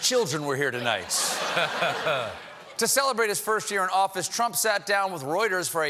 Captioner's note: laughter